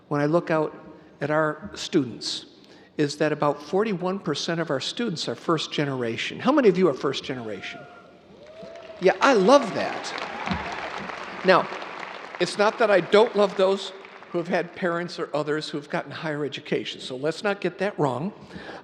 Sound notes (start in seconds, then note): 8.3 audience cheering